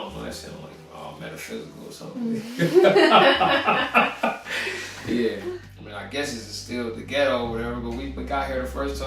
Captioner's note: laughs